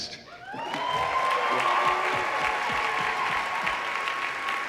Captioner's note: audience cheering